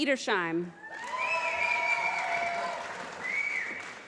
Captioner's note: applause